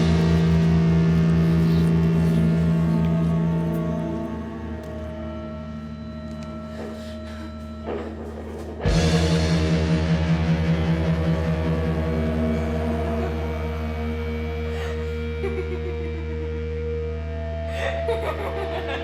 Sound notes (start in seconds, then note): 14.6 Ginger laughing